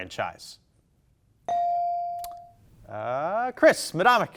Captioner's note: bell dinging